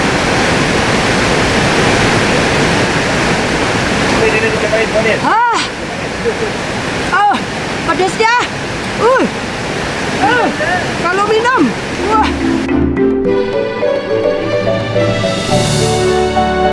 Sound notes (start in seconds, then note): 11.9 laugh